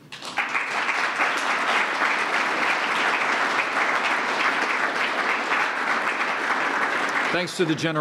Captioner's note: applause